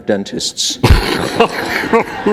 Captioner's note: laughter